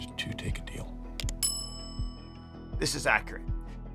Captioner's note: bell ringing